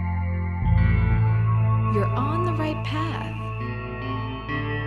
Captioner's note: voice-over